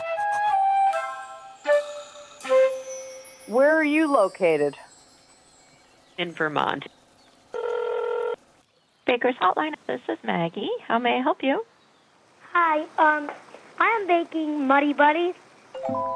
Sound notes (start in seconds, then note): 0.0 whimsical music; 7.5 phone ringing; 15.8 gentle music